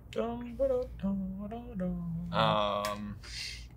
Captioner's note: hums